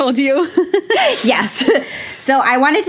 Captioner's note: both laugh